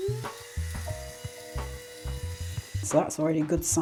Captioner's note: coffee grinder whirring